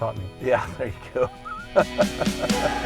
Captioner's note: laughing; cheery music